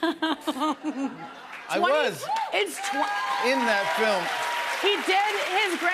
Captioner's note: cheers and applause